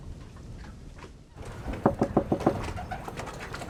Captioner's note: knock